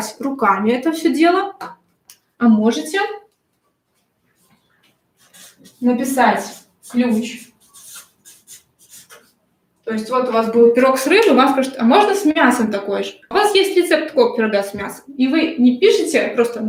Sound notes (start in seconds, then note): 7.3 скрежет маркера по бумаге